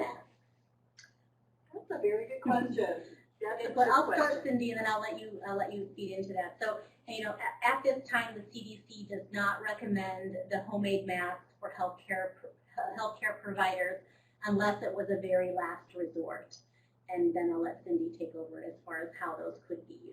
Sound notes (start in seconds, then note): 1.8 chatter